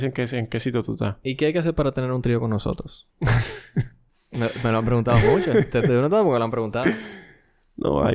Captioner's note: laughs